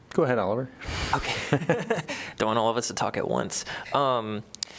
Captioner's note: laughter